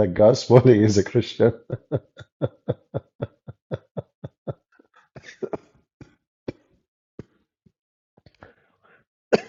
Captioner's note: Ketawa